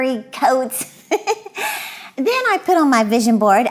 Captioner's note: giggling